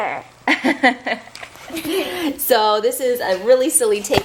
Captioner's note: laughing